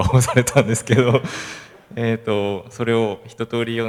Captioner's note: laugh